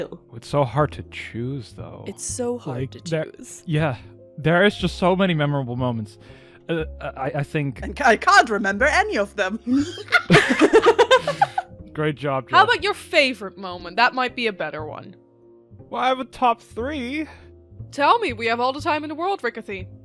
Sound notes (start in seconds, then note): 9.7 laughter